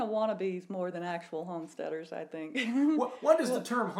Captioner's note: giggles